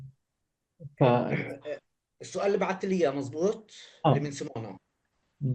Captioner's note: speaking arabic